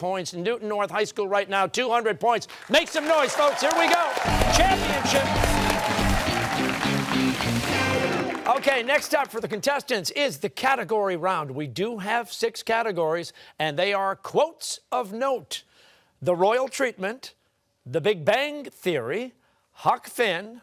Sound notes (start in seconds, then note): 5.5 cheers and applause